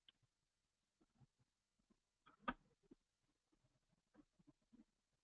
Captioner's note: pause